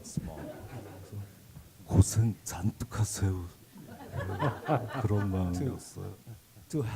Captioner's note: speaking Korean